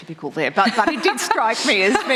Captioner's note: laughter